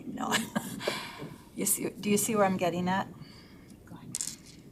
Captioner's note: laughs